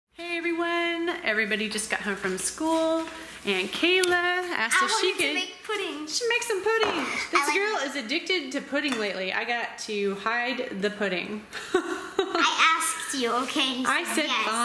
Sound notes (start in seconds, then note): 9.3 laughing